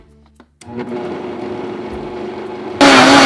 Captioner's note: blender running